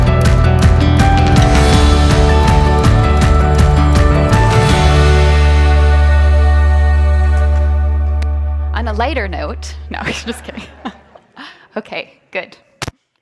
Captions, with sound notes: - On a lighter note, no I'm just kidding (laughs). (audience laughs) Okay, good.